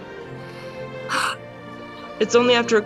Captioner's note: lucy sighs